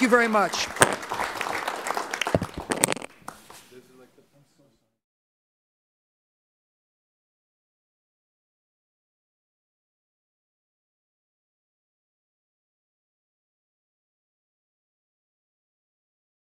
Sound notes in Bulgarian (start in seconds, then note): 4.3 Аплодисменти